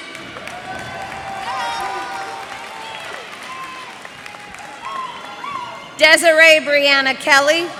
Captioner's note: cheers and applause